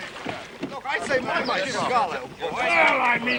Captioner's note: all clamouring